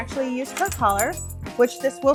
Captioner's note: collar jingling